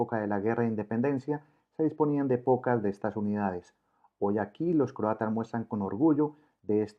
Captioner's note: Croatian